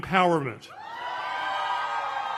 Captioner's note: cheers